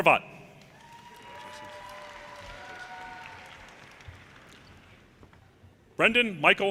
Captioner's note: audience cheers and applause